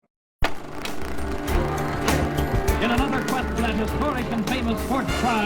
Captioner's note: movie projector hums